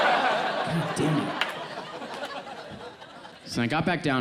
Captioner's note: audience laughs